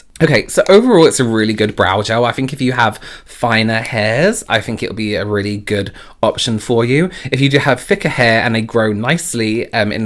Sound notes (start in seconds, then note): none